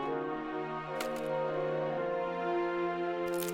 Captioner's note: spear splintering